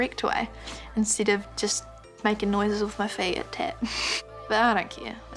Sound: chuckles

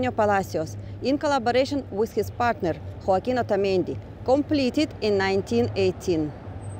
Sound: street & Traffic Noise

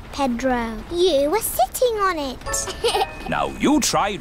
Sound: laughs

